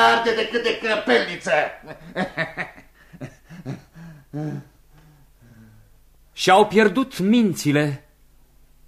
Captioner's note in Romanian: Râsete